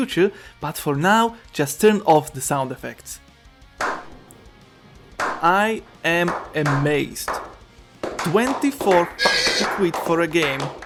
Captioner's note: slow clap